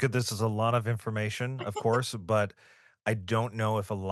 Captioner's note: laughs